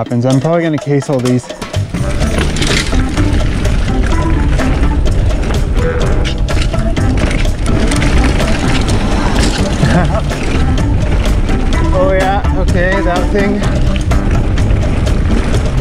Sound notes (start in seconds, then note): 2.0 bossa Nova music; 2.0 tires rumbling on the ground; 9.4 laughing